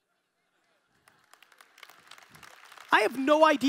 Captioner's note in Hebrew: הקהל מוחא כפיים